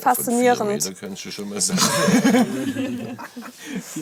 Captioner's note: laughter